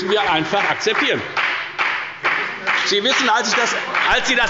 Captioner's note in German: Beifall bei der FDP – Zurufe von der LINKEN